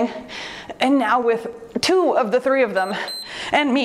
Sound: timer beeps

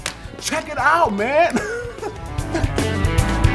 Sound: laughing

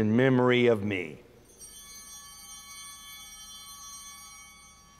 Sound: bells ringing

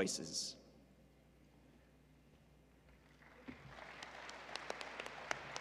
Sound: applause

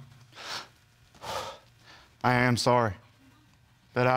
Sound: strangled sigh

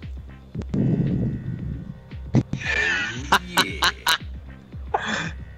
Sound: breathes heavily into microphone

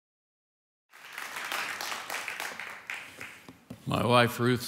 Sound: congregation applauding

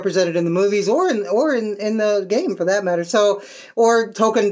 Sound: stammer

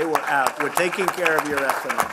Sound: applause

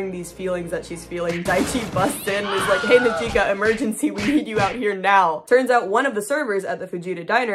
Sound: sounds of chaos

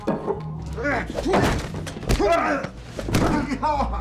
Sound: scuffling

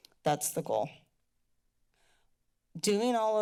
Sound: pause

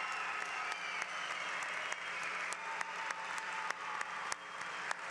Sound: applause

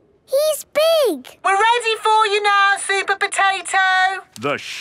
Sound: through megaphone

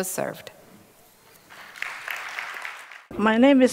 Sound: applause

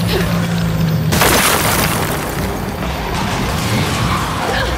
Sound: gunshots

